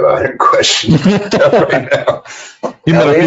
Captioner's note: laughing